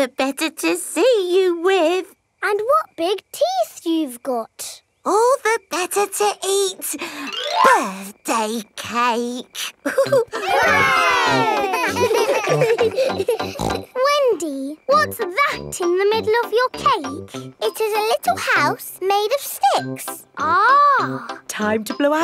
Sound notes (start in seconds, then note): 9.6 laughing; 9.8 chuckles; 11.9 snorts